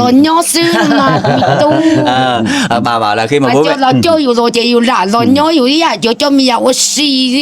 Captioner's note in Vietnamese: tiếng cười